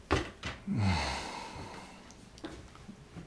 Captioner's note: sighs